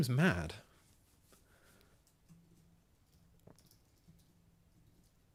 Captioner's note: silence